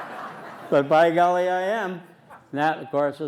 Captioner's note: laughter